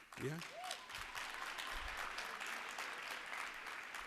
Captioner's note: applause